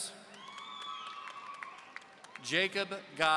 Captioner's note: audience cheering